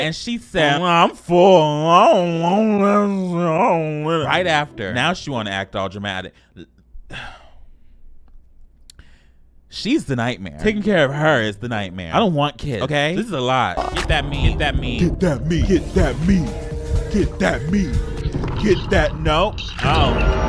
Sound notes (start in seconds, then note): 7.0 sighs; 13.8 video buzzes; 16.1 upbeat music